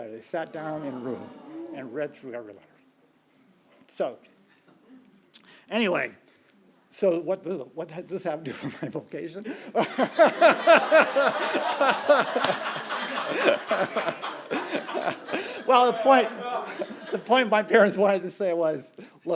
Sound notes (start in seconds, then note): 9.7 laughing; 9.8 audience laughing